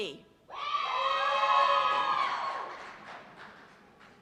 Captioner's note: cheers and applause